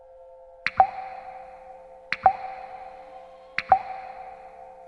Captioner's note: water pattering